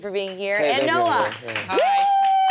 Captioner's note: audience applauds